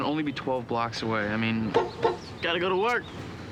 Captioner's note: honks horn